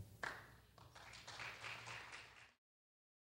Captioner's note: clapping